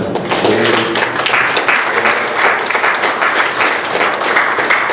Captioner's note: applause